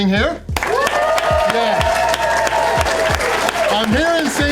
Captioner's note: crowd clapping and cheering